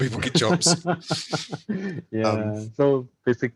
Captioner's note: laughter